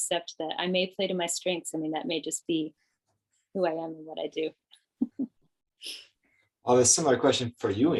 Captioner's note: chuckles